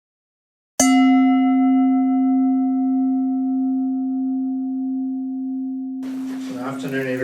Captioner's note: bell dings